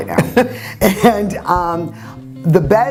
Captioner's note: laughs